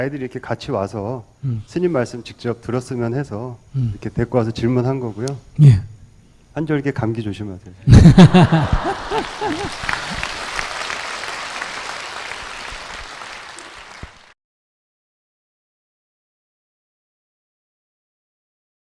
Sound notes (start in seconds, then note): 7.8 laughter